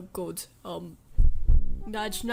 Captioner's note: nudging microphone